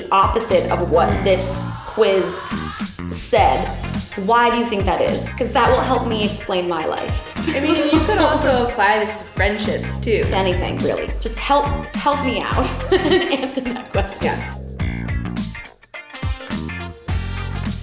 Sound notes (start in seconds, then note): 12.2 laughs; 14.6 upbeat music